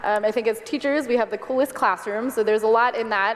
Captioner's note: none